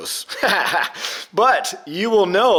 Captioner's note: laughs